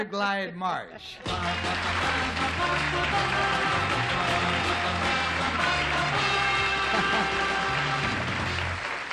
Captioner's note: applause